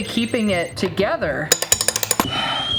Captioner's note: lock clanging; kettle whistling